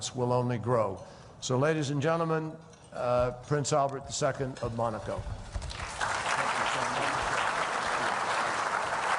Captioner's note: applause